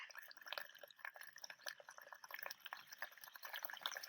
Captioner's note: water gurgling